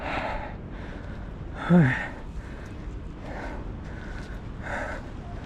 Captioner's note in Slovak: dychčanie